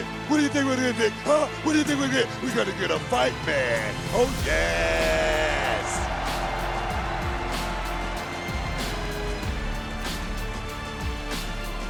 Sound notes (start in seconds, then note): 4.4 crowd cheering